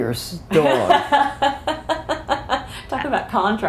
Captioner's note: laughter